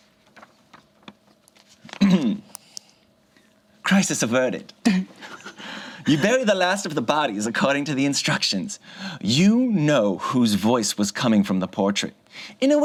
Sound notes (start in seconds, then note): 1.9 clears throat; 4.8 group chuckles